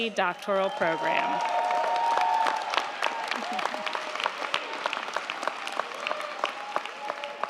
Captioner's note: crowd cheering; crowd clapping